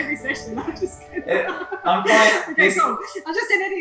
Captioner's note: laughs